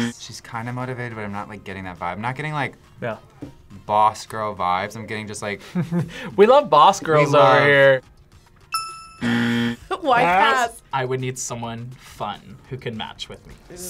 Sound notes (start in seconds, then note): 6.0 laughs; 8.7 bell rings; 8.7 buzzer rings